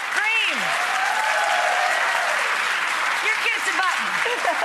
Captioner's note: cheering and clapping